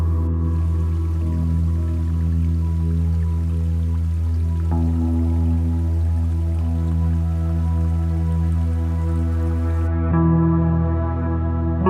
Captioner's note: running Water